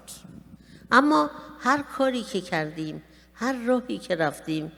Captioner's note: speaking persian